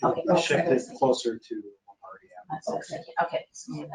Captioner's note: speaking faintly; speaking faintly